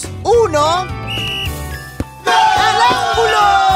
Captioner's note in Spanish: Sonido de silbato